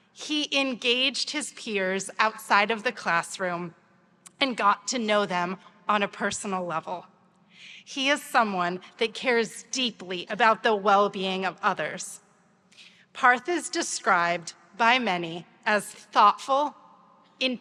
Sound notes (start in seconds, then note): none